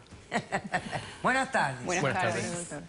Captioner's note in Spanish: Risas